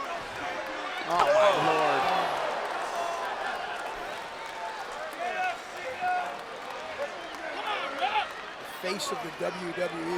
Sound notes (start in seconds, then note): 3.1 applause